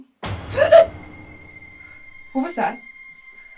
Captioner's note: distant thud; Kathryn gasps